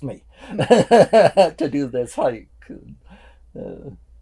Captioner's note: laughing